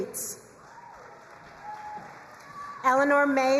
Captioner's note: crowd cheering and applauding